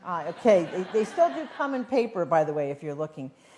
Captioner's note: laughter